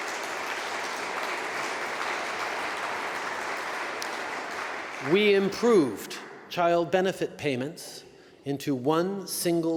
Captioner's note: applause